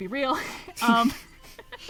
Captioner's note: laughs